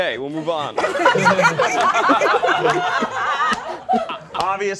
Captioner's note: all laughing